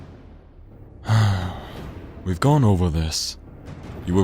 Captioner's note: sighs